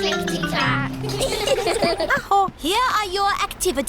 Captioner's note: all giggle